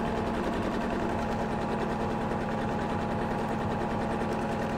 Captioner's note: sewing machine hums